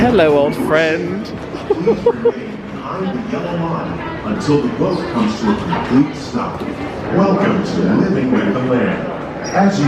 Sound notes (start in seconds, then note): 1.5 laughing; 3.3 indistinct chatters